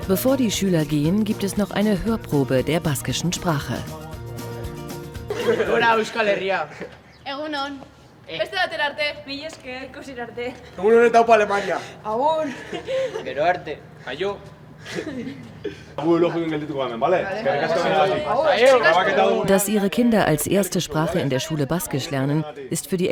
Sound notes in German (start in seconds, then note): 12.3 gelächter